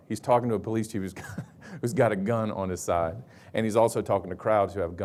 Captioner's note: chuckles